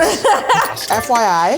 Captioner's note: laughs